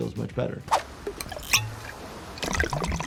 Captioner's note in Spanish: la tapa de la botella chirría; chapoteos líquidos